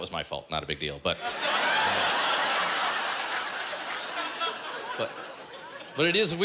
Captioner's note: laughter